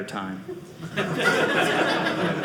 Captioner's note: audience laughing